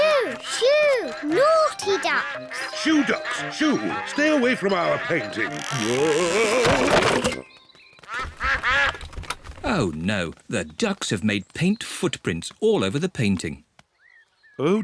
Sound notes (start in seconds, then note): 8.0 quacking